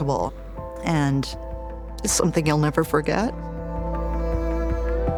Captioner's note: voice trembles